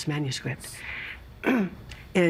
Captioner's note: clearing throat